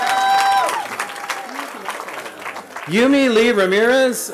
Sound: cheering

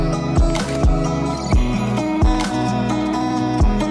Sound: shutter closes; relaxed hip hop music continues

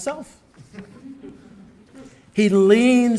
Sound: audience laughing

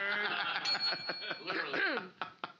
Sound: bell softly chimes; loudly laughing; clears throat

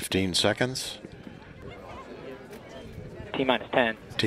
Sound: crowd murmuring

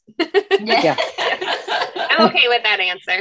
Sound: laughs

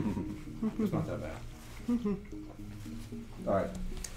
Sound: humming rythmically

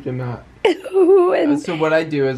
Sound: chuckling

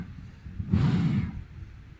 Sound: sound of blowing air

